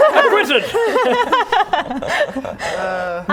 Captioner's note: laughing